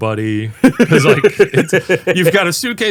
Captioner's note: laughing